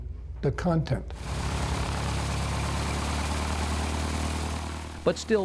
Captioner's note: plane taxiing